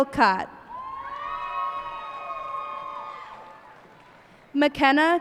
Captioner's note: cheers and applause